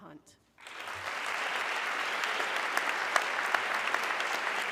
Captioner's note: audience clapping